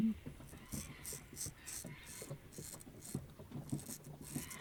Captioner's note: scraping sound